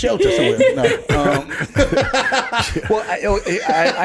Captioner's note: laughs